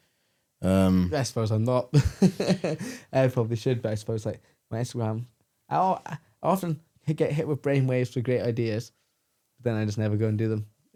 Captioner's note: laughs